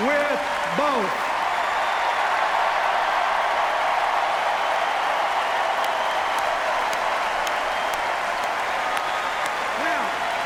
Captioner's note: sustained cheers, applause